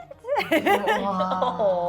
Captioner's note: laughing